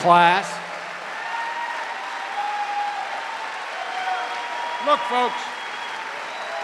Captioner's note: cheers and applause